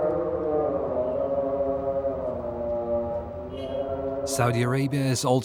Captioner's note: praying in native language